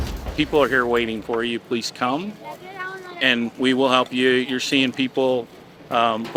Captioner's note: cart rolling